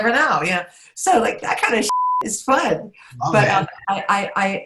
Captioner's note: beep